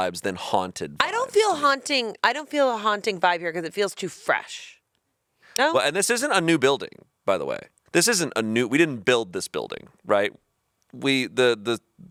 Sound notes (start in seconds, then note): none